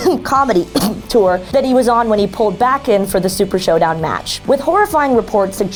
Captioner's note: cough